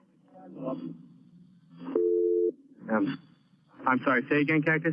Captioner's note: line beeps